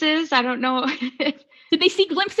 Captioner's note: laughing